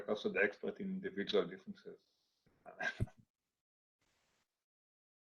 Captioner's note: laughing